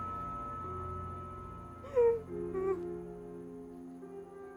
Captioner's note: weeps